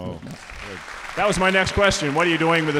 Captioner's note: audience applauding